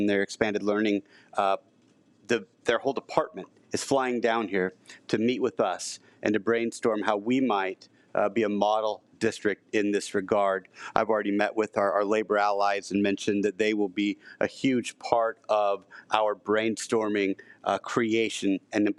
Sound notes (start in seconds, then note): none